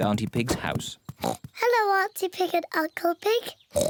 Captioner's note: oinks; oinks